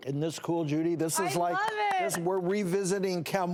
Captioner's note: clapping